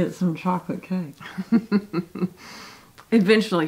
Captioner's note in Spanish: Mamá se ríe